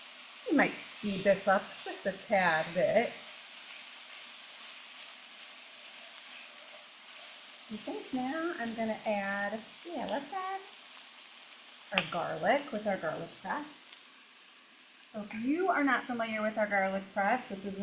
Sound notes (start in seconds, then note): 3.9 food sizzling